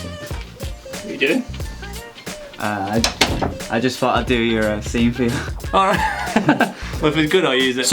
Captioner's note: laughter